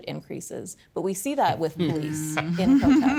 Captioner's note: panellists laughing